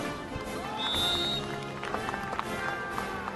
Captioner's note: clapping; whistle